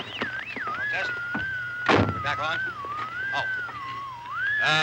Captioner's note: radio comes on